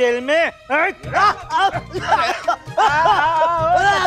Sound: coughs

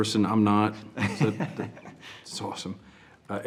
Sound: chuckles

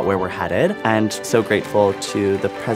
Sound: audience applause

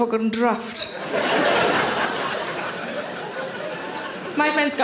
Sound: audience laughing

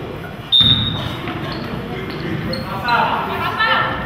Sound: whistle blows

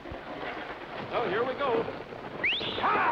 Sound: whistles

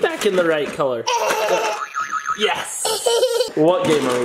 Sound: laughs

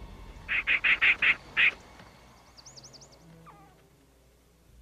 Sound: intense dramatic music; squirrel chittering

